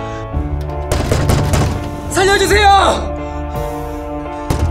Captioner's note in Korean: 쾅쾅쾅쾅; 쾅쾅쾅쾅